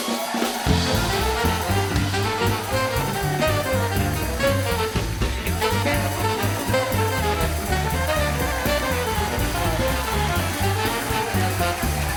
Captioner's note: cheers and applause; band playing; cheers and applause